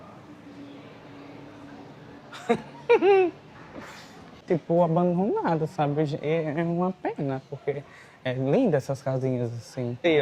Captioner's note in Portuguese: risadas